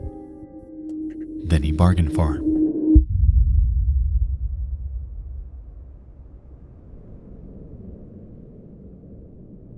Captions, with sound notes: than he bargained for. (rumbling sound) (wind whistling)